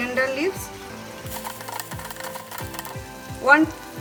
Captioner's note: pan sizzling